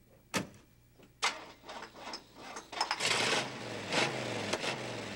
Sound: engine turns over

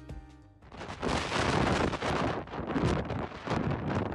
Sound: waves crashing

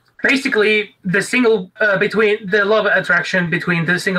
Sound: none

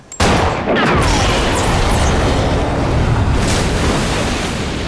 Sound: explosion

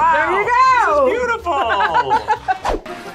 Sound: laughs; playful music

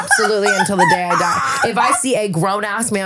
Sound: laughing

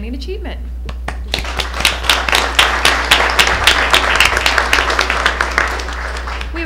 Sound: applause

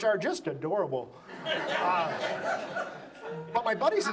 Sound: audience laughs

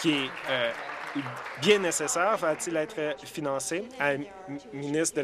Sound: applause

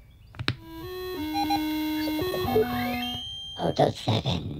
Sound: electronic Toy Startup Sounds

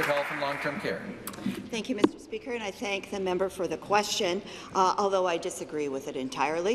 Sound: applause

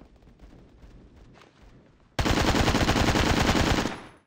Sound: ak103 gunfire

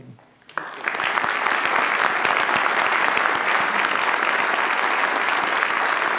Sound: audience applauds

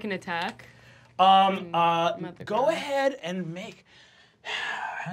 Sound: sighs

